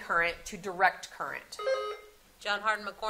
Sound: buzzer sounding

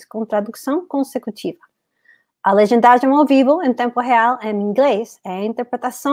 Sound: speaks portuguese

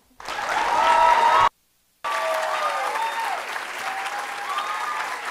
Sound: audience applauding and cheering

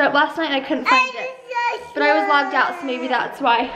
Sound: baby talk

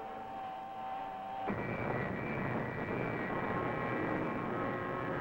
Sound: engine roaring

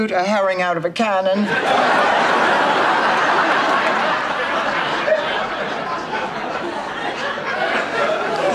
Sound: audience laughter

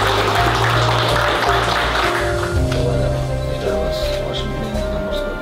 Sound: applause

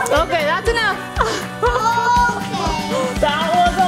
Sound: laughs

